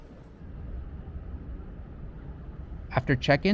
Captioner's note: outside ambient sounds